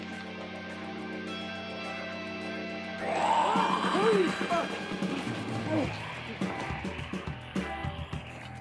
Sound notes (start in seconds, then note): 3.0 snarling; 3.1 gasping